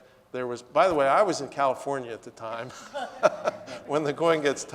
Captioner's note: laughs